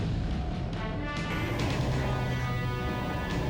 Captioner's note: computerized humming